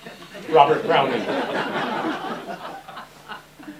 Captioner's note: laughter